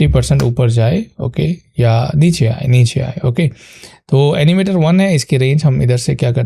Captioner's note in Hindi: नाक से की जाने वाली आवाज़